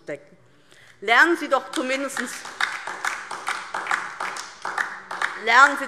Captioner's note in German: Beifall DIE LINKE